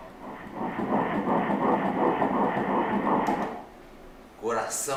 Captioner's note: heart beat